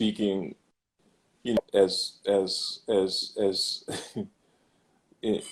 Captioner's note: laughs